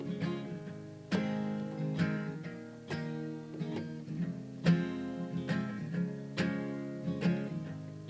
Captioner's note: none